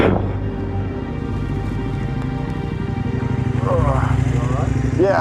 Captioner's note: engine noise